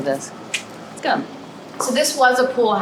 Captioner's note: tongue clicks